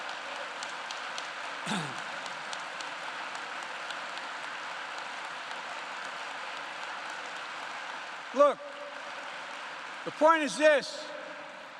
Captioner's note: applause